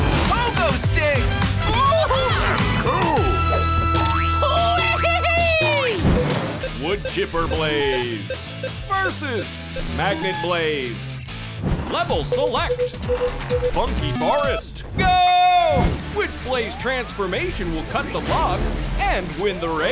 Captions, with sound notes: Pogo sticks! [cheering] Wood Chipper Blaze versus Magnet Blaze. Level select, Funky Forest, go! Which Blaze transformation will cut the logs and win the race?